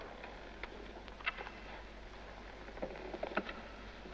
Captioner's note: floor creaks